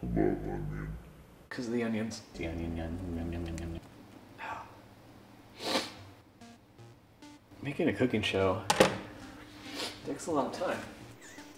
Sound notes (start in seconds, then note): 5.5 sniff